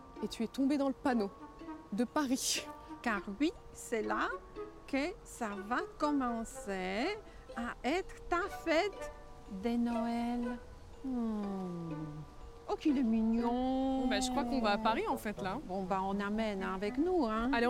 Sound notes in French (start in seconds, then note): 11.0 exclamation attendrie